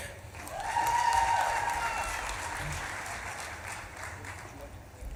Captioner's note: audience claps and cheers